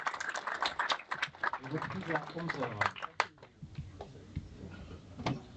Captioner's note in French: applaudissements